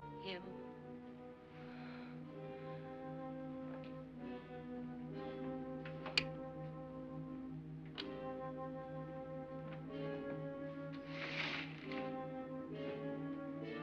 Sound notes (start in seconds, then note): 2.8 ominous music; 6.0 lock clicks; 8.1 ominous music; 11.0 window slides up